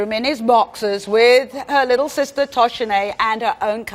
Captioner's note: none